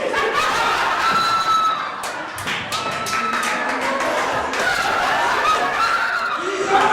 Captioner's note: audience laughter